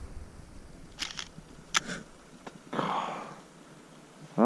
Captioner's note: camera makes strange clicking sound